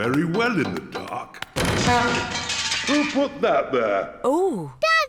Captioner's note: crashing